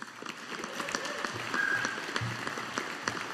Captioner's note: audience applauding